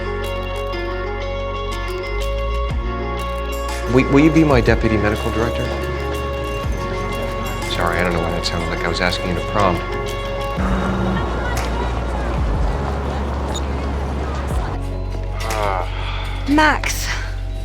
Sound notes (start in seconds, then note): 4.0 voiceover; 10.5 Max's phone buzzes; 15.4 Max sighs over the phone